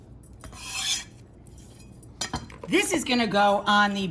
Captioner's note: knife scraping